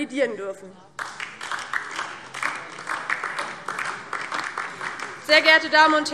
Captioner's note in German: Beifall DIE LINKE